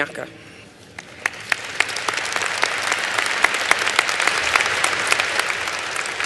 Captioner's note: applause